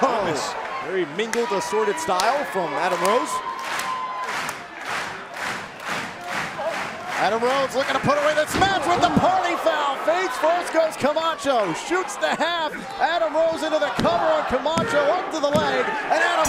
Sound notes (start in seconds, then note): 0.3 fans chanting; 7.3 cheers & applause